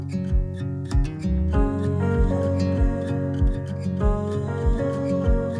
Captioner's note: vocalist humming